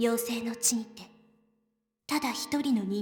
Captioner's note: none